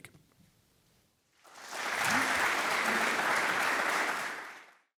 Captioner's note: applause